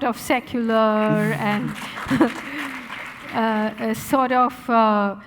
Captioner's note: audience applauding